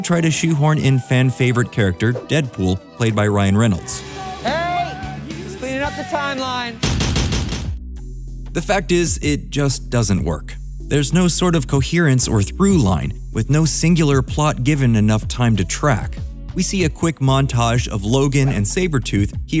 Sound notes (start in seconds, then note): 6.8 gunshots